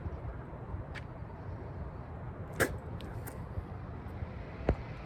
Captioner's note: spits on the ground in disgust